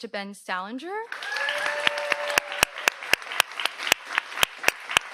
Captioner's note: audience cheers